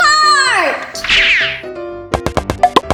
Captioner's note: speedy zipping; electric bongo drums